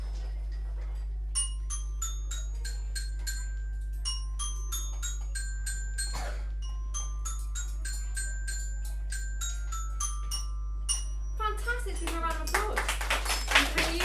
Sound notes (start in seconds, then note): 1.4 child playing; 11.9 all clapping